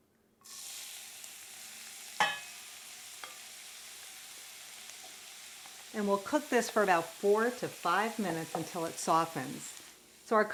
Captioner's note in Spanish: chisporroteos